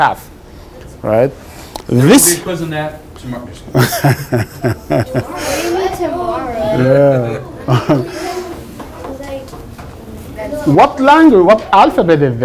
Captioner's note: laughs; kids groaning